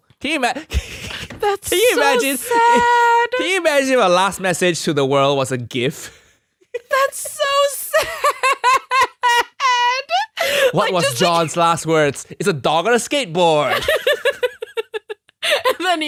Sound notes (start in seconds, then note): 1.7 laughing; 7.9 both laughing; 13.7 both laughing